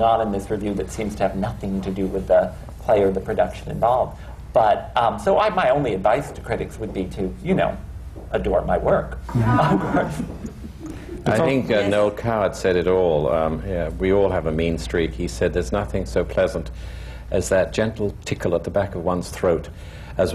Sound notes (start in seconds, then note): 9.4 laughter